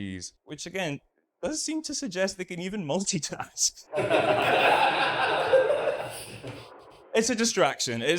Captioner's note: audience laughs